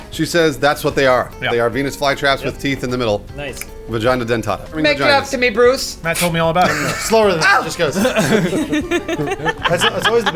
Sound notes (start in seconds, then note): 6.5 laughing